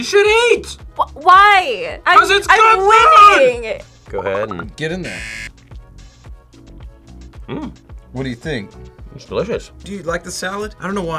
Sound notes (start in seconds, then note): 5.0 buzzer